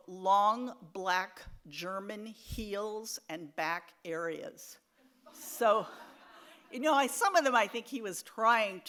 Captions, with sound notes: Long Black German Heels and Back Areas. (audience laughs) Some of them, I think, he was trying